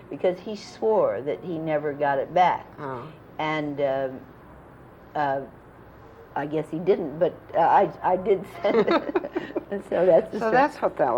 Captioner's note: laughter